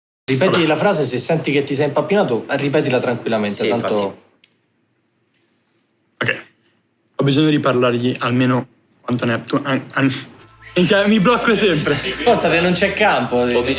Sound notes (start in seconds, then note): 8.8 stutters